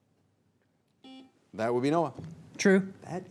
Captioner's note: buzzer beeps